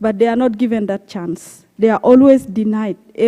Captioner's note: none